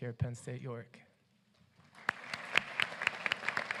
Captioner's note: applause